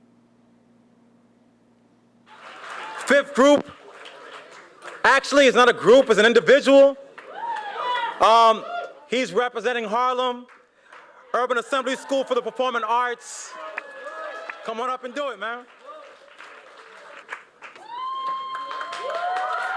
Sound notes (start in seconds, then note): 2.3 applause